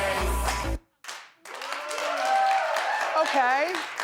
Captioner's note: audience cheers